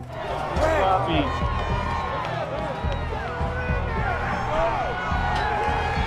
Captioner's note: crowd yelling, cheering